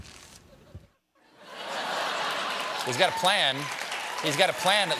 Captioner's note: laughter